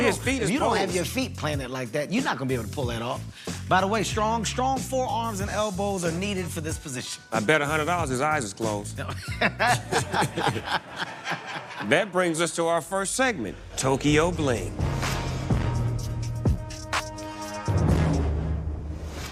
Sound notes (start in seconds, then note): 9.1 laughter